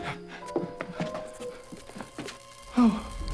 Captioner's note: uneasy music; electricity buzzes